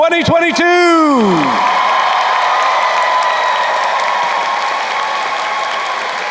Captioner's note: crowd cheering and applauding